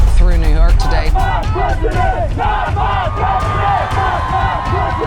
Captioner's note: crowds yelling